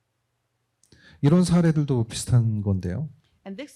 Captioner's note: speaking korean